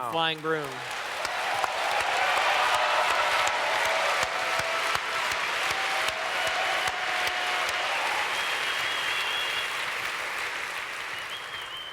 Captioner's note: audience cheers